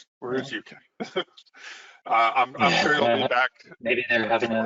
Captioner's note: laughs